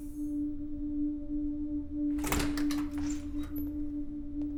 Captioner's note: door opening